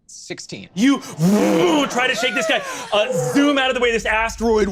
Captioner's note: vocalizes air whooshing